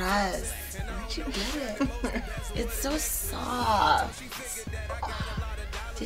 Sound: laughing

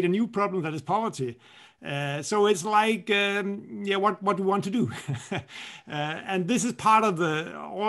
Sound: laughter

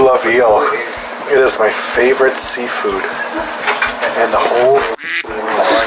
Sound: quack

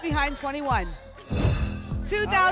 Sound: whoosh

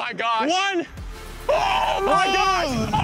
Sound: screaming

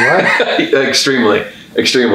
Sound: laughs

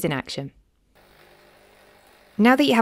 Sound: gears whirring

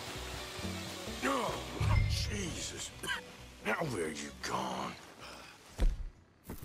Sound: coughs

